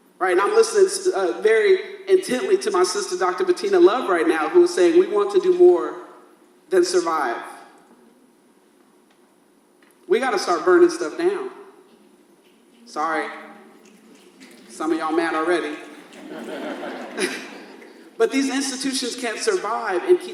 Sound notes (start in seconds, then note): 15.8 audience laughs